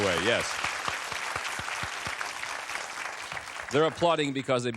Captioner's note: applause